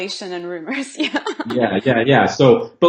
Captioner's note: laughs